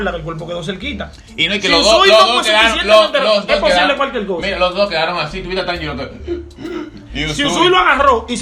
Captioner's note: imitates Tanjiro's forced breathing